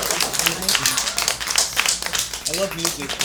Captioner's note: applause